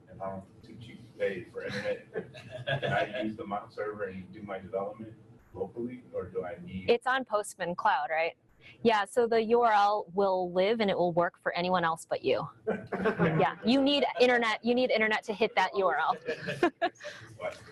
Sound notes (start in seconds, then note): 1.5 man laughing; 12.7 audience laughing; 15.8 laughs; 16.1 audience laughing